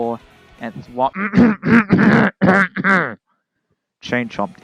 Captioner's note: clears throat calmly